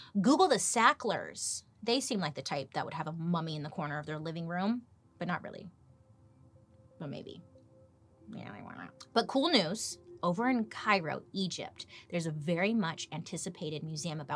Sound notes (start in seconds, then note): 8.5 mumbles